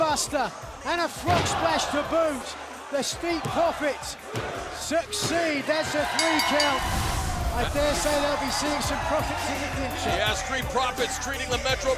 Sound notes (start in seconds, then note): 6.1 bell ringing